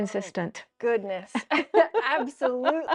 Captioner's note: laughing